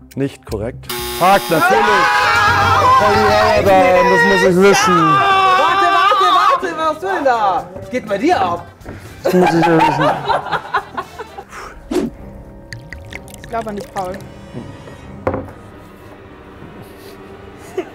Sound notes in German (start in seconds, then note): 11.2 Unheilvolle Musik; 17.6 Leises Lachen